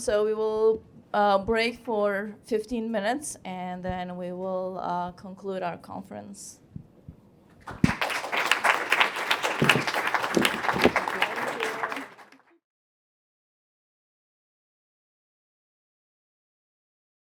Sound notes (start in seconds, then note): 7.6 applause